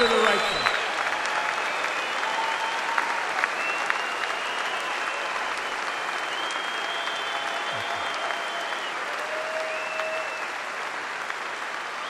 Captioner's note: applause